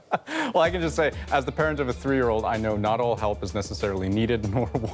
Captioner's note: laughter